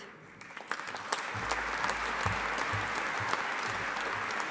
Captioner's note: audience applauding